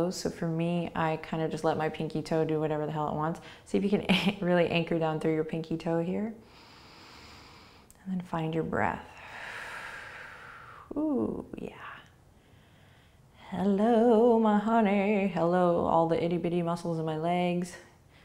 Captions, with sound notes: so for me I kind of just let my pinky toe do whatever the hell it wants. See if you can really anchor down through your pinky toe here. And then find your breath. (exhaling) Ooh, yeah. Hello my honey. Hello all the itty bitty muscles in my legs.